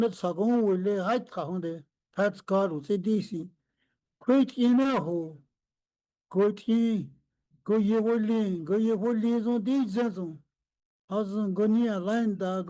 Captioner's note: speaking Indigenous language